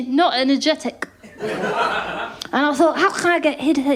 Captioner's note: laughter